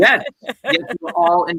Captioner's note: laughing